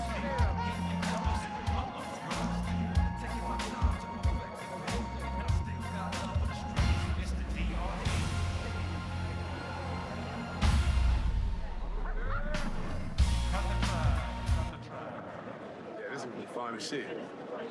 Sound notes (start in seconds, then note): 0.7 hip-hop music playing; 4.1 indistinct chatter